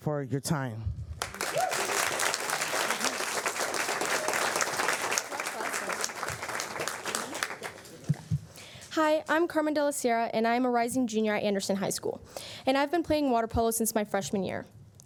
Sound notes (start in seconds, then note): 9.2 applause